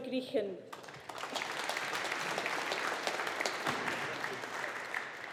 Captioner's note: audience applauding